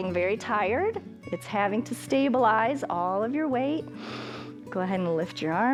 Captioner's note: inhales